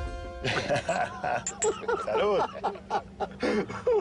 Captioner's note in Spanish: Risas